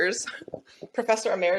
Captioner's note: chuckles